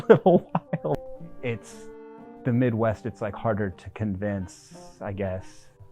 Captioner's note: laugh